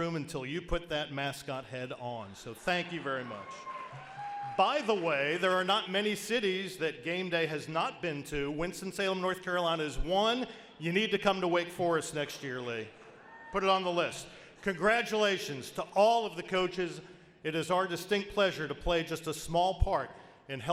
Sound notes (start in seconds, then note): 2.7 audience applauds